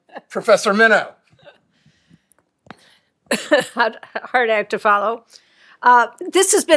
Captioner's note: laughter